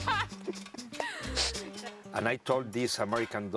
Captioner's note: laughs out loud